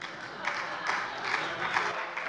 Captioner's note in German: Heiterkeit und Beifall bei der SPD